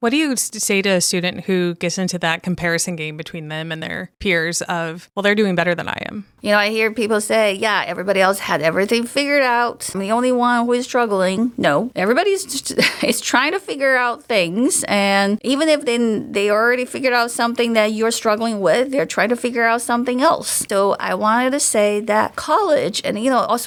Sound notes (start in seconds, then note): 12.6 chuckles